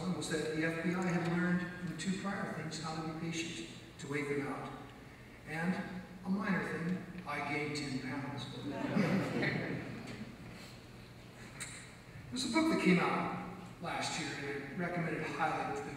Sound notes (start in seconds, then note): 8.6 audience laughs